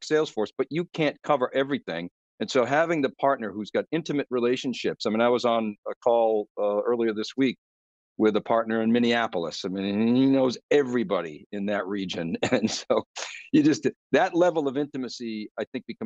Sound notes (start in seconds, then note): 12.3 laughs